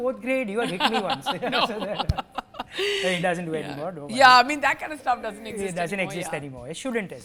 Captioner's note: laughter